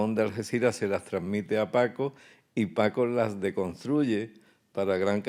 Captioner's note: speaking in Spanish